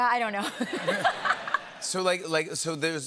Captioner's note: laughter